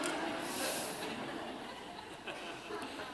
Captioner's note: laughter